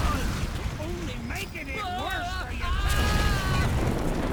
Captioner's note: screaming